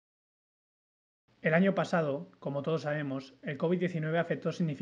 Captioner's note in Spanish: Voz en off